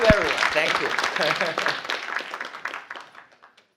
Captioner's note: applause